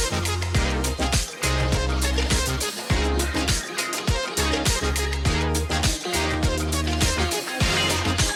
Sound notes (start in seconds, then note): 2.4 # upbeat music #; 2.4 background chatter